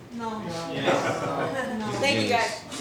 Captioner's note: laughing